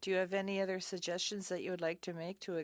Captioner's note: speaking in French